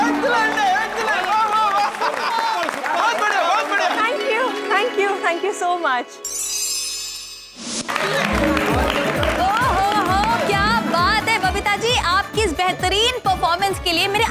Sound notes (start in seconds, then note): 7.8 applauding